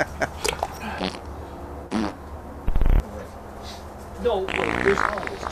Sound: chuckles; farting noises

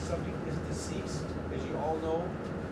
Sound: voiceover

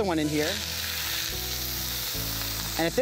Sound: sizzling

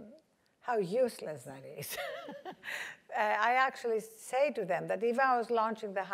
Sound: laugh

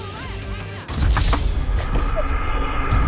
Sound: crash; giggles

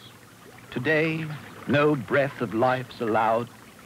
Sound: reciting poem

